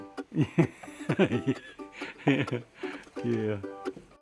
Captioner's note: laughs